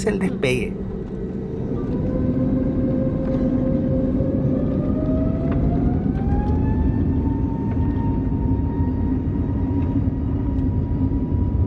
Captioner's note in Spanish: despegue del avión A320 Neo de SKY Airline, sonido ambiente